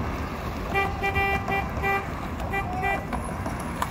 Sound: more honking

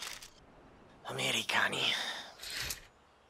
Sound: non-english speech

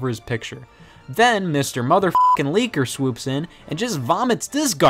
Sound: beep

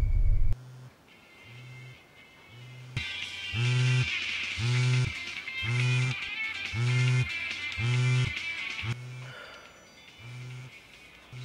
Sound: phone rings

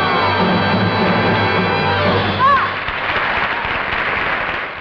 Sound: audience clapping

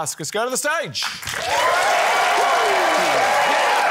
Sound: cheering, applause

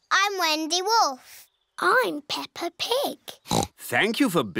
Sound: oinks

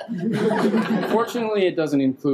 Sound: people laughing

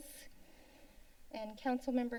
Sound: inhales

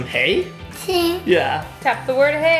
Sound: giggling

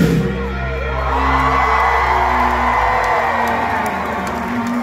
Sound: cheering

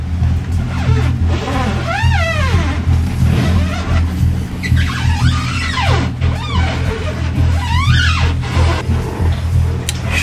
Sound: fenders squeaking loudly as they’re pushed up against the quay

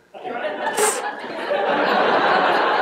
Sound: hissing exhale; laughter

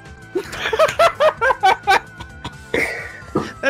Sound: laughter

